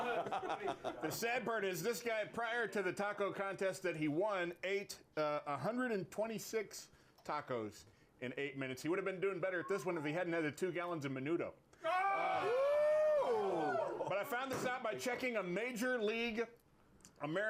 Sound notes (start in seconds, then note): 15.8 slams hammer